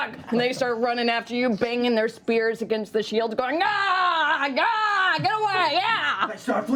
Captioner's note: yelling